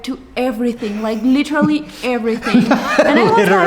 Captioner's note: laughing